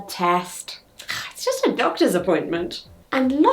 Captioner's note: scoffs